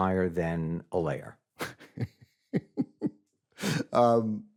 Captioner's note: chuckles